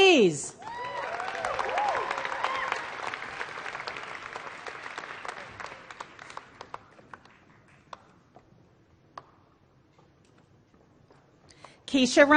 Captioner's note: applause